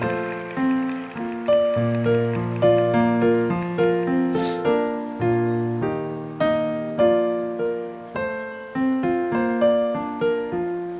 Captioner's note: applause